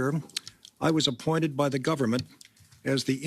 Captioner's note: speaking in French